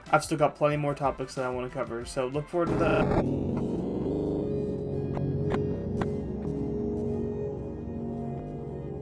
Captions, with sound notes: I’ve still got plenty more topics that I want to cover, so look forward to tha— —[glitching]